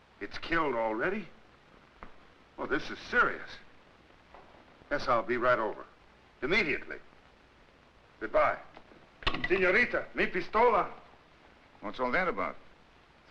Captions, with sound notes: It's killed already? Well, this is serious. Yes, I'll be right over. Immediately? Goodbye. (Taro speaks Spanish) - What's all that about?